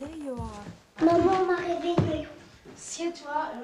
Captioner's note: speaking french